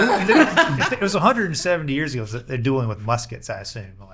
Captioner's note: laughing